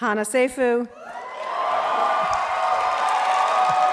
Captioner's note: crowd cheering